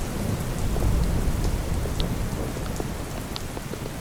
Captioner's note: distant thunder